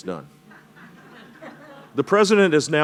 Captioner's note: laugher